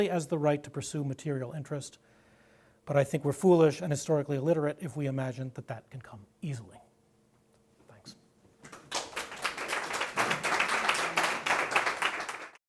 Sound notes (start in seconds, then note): 8.6 applause